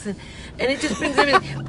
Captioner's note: laughs